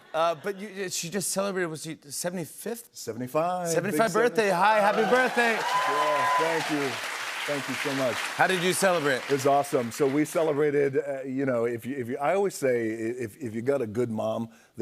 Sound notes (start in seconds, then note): 4.8 cheers and applause